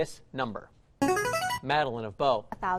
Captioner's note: chiming